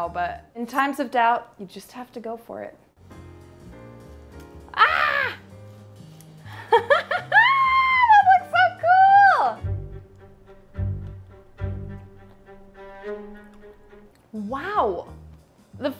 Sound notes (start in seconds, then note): 3.2 slow music; 6.5 laughs; 9.7 suspenseful music